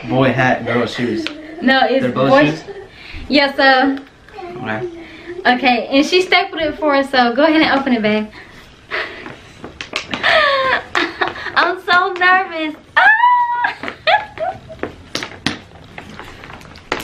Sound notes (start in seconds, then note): 10.2 chuckles; 13.6 chuckles